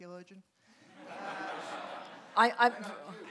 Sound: audience laughing

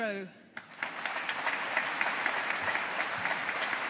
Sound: audience applauding

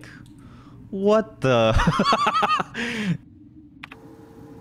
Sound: laughs

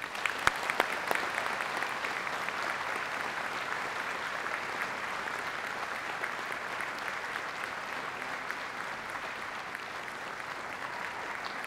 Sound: applause

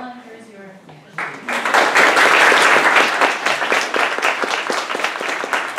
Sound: applause

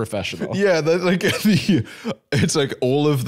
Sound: laughing

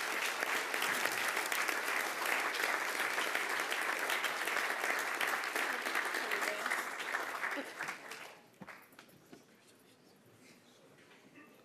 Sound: applause

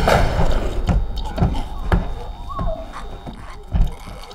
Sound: deep, unearthly yell; thudding, retching; strained grunting

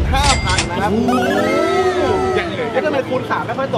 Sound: cheering

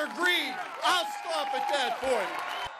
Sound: cheering and applause

